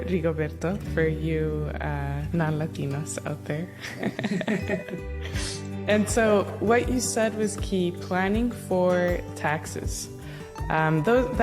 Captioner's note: laughter